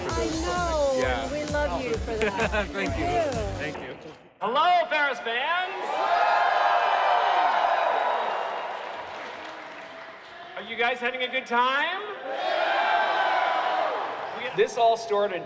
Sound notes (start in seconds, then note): 5.6 audience cheering; 12.2 audience cheering